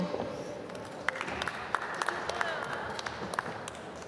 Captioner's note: applause